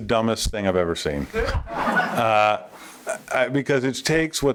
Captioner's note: laughter